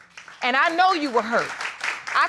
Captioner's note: audience applauding